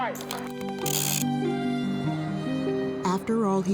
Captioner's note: soft music; reel whirring